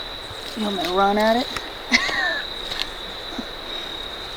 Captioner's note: laughs